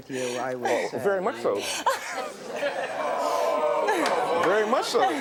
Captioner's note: laughing